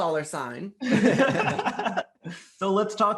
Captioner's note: all laughing